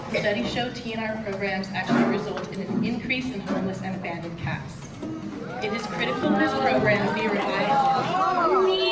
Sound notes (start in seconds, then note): 5.3 audience boos